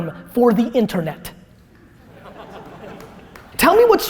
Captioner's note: laughter